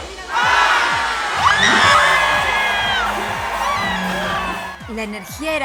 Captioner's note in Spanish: Gritos y euforia